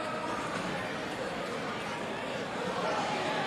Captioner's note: cheers and applause